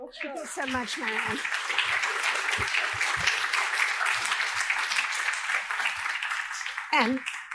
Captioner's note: applause